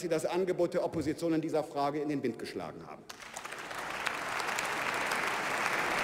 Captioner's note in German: Beifall bei der FDP